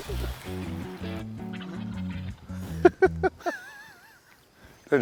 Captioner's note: turkeys squawking; laughter